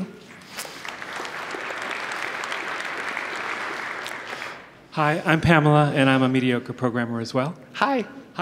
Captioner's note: applause